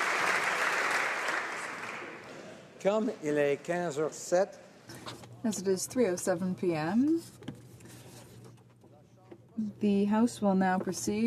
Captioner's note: applause